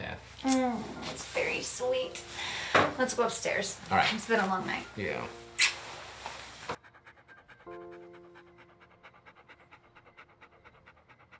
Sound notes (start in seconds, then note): 5.6 lips smack; 6.7 Ramani pants